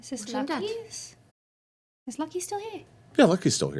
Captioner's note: none